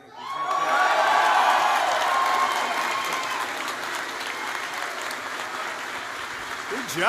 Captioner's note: applause